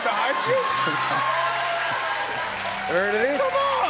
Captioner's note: cheers and applause